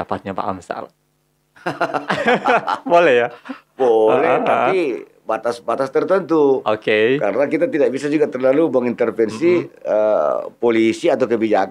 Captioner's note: laughs